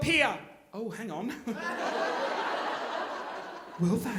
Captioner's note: audience laughing